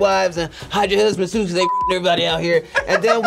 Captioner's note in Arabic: يصدرون صوت تنبيه; يضحك